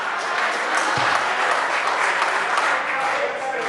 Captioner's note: members applaud